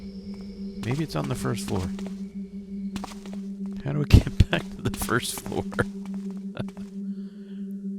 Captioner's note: laughs